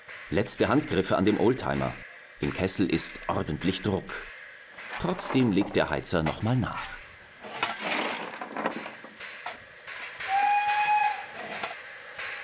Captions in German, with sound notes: Letzte Handgriffe an dem Oldtimer. Im Kessel ist ordentlich Druck. Trotzdem legt der Heizer noch mal nach. (Zugpfeifen)